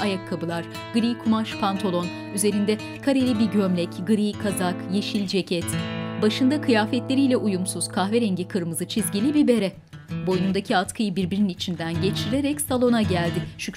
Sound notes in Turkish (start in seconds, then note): none